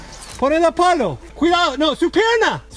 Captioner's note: in Spanish